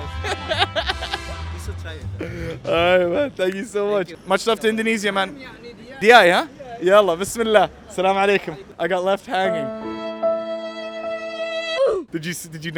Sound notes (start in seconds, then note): 0.0 laughs; 5.5 diner speaks foreign language; 6.8 speaks Arabic; 9.4 sad music